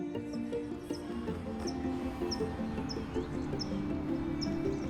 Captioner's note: birds chirping